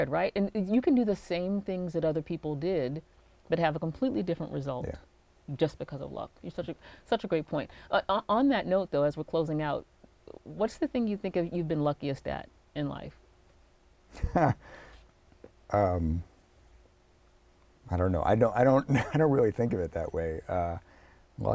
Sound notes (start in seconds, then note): 14.1 chuckling